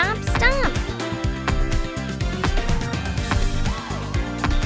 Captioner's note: feet thudding